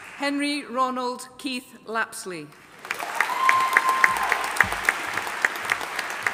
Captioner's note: audience applauding